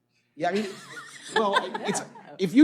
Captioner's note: laughter